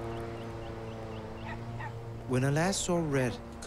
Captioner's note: dog yaps